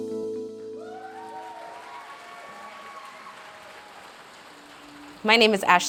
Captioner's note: audience cheering and applauding